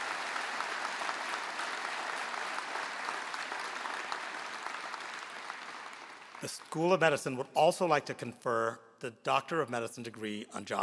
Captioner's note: applause